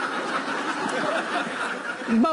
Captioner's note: laughter